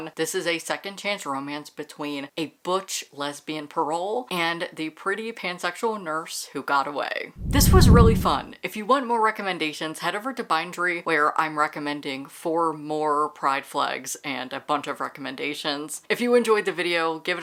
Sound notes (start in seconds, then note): 7.4 whoosh